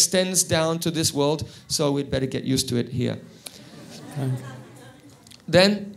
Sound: crowd laughs

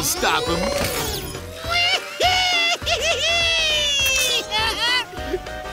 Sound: laughing

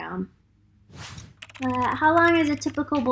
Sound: keyboard clicking

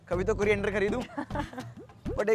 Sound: giggling

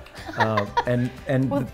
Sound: laughs

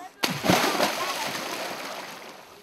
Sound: splash

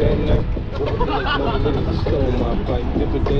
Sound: laughs

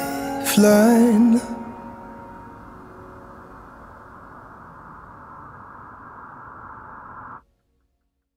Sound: distant wind blowing

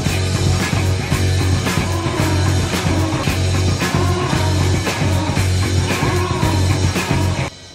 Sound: angry bees, singing

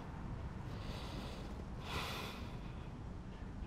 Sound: sighing

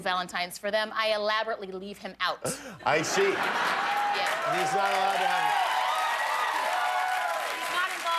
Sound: laughter; cheers and applause

